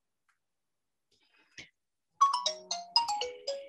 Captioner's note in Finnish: kännykkä soi